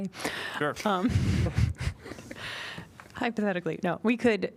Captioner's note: laughter